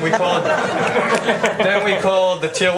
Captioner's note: laughter